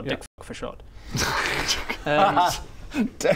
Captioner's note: snickers